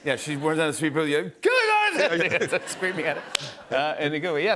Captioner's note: yells